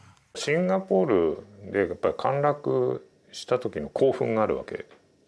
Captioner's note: speaking in Japanese